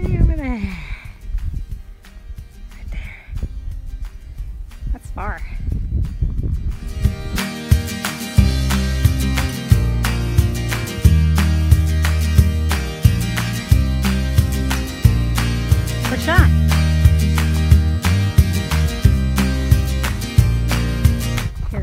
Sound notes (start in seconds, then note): 6.8 upbeat music; 16.3 yelling; 18.8 upbeat music